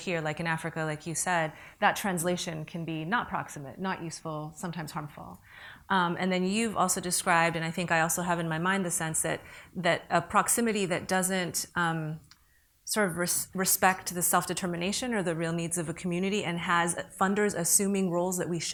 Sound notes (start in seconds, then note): none